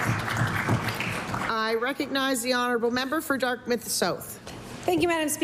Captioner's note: applause